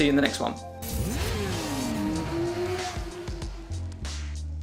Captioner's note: engine revving; upbeat music